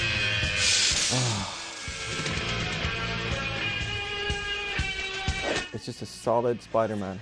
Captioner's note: relieved sigh